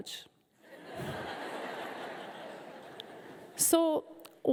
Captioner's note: audience laughing